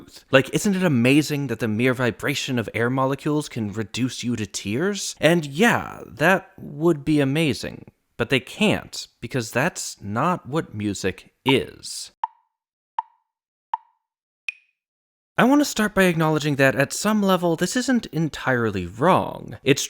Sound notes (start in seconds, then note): 11.4 tick, tick, tick, tick, tock